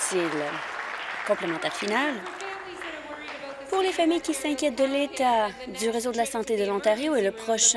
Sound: applause

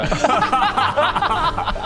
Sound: laughs

